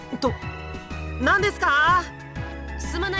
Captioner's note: shouting